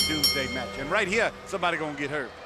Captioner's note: bell ringing